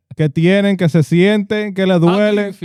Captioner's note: speaking Spanish